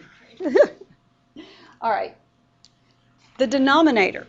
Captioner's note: laughter